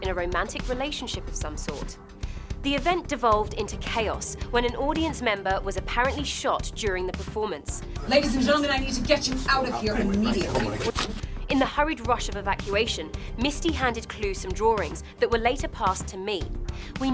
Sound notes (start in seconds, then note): 8.3 voiceover